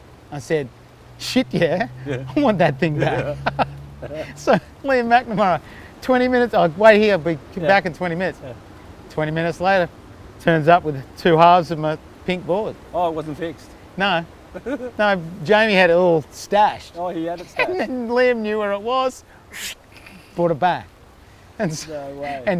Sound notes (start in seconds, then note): 3.3 laughs